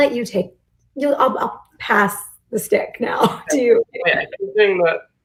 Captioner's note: laughs